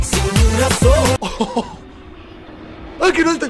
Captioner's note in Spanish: Ríe